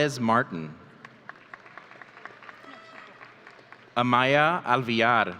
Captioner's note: audience applauding